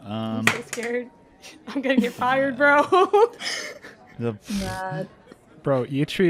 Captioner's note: dice clacks; laughs